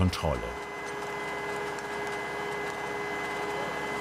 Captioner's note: continuous high-pitched whirring